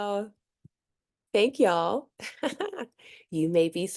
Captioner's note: chuckles